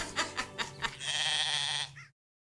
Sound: sheep bleating

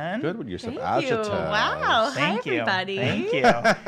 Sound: laughs

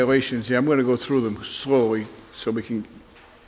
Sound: none

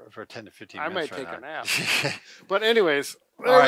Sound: laughs

